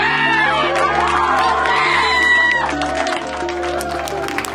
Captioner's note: applause